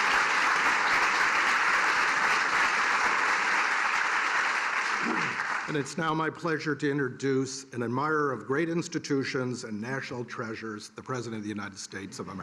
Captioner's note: cheers and applause